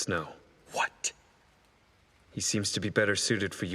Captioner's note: rain